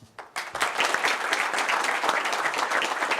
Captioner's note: applause